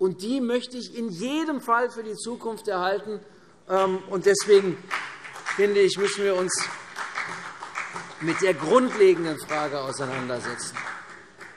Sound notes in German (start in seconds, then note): 4.3 Beifall CDU